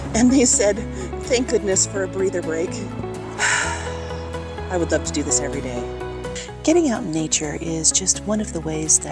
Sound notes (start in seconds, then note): 3.4 sigh